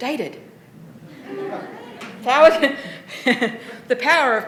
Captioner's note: laughter